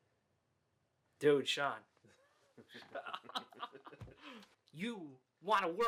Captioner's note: both laughing